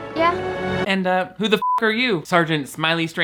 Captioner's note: beep